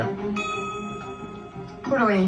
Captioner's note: bell dings